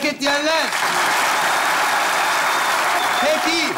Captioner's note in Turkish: Alkış ve ıslık sesleri